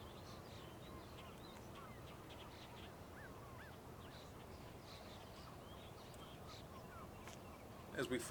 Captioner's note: birds chirping